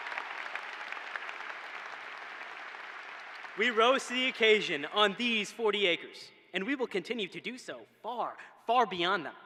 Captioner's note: applause